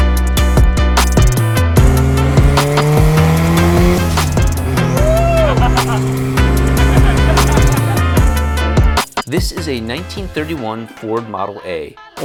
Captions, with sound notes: (engine revving) - Whoo! (laughing) - This is a 1931 Ford Model A